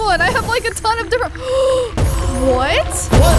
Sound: gasps

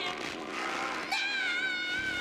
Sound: ripng sound

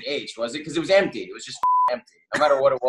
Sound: beep

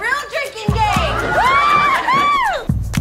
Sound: cheers

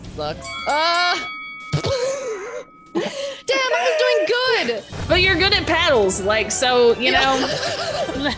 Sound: laugh

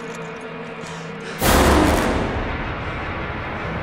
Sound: suspenseful music; gasps

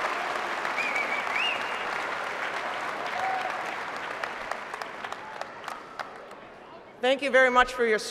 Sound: applause

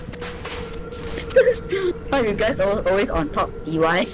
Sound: laughing

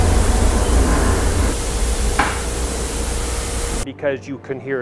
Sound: static crackling

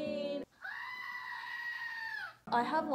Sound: goat Screaming

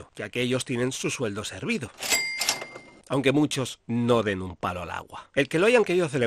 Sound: sound of cash register

